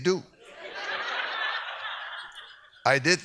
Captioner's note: audience laughs